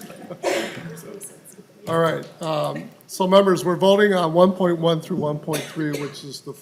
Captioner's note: laughing